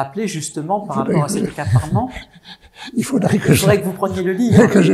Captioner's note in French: rires